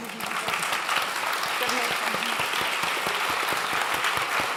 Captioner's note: clapping